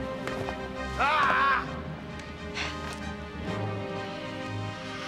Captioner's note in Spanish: Zadrim gritando